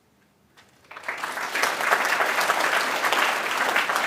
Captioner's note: applause